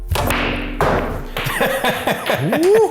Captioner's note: laughing